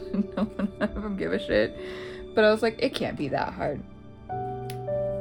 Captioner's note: laugh